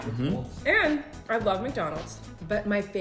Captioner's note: none